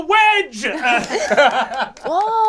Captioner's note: all laugh